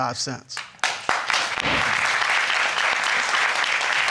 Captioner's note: crowd clapping